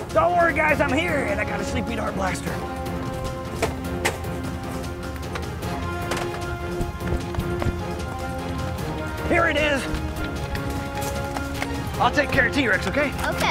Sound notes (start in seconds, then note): 3.4 hand thudding; 4.3 blaster clattering